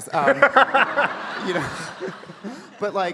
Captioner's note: audience laughing